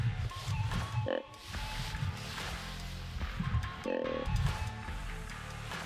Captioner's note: grunt call croaking